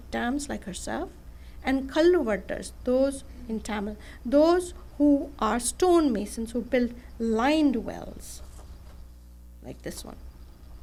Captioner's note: non-english speech